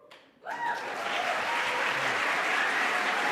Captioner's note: applause